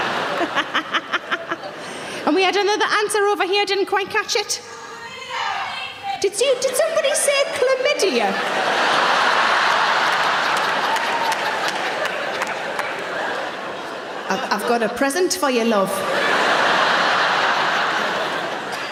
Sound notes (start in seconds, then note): 0.0 audience laughing; 0.3 Sarah laughs; 5.1 audience members shouting; 8.2 audience laughing; 15.6 audience laughing